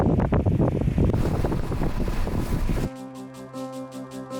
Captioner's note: wind blustering